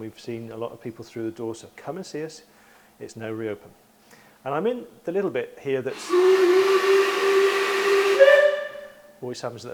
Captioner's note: train whistles